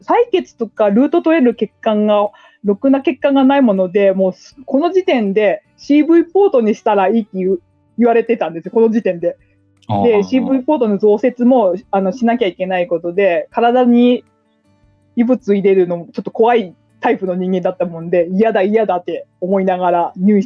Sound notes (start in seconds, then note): 9.9 laughs